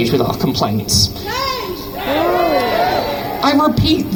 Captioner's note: crowd chants "Shame"